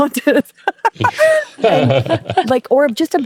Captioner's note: both laughing